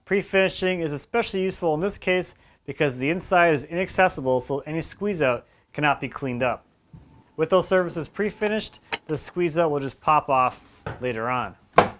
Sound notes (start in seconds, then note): none